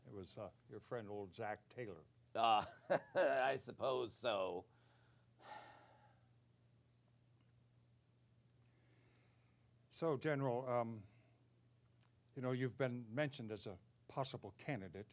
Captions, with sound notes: - It was your friend, old Zack Taylor. - (chuckles) I suppose so. - So General, you've been mentioned as a possible candidate.